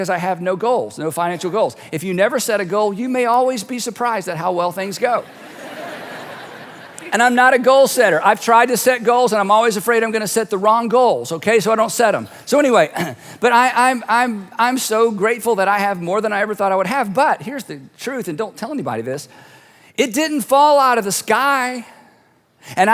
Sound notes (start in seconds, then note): 5.2 audience laughing; 12.9 clears throat